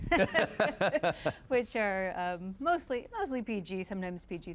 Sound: laughing

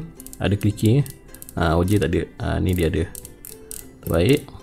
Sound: clicker

